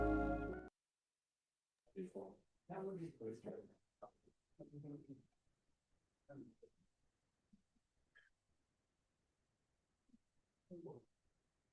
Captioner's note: pause